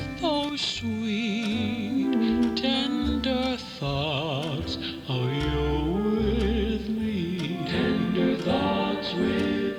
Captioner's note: clock Ticks Loudly